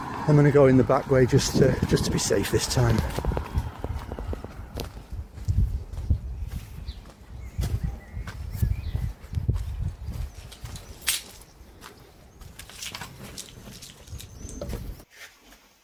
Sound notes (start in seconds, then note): 9.8 keys rattling